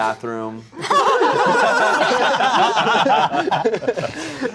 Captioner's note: everyone laughing